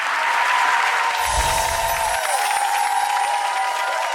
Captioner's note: audience applause